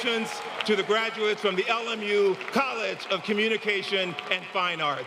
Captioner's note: applause